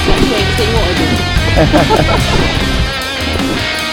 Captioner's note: laugh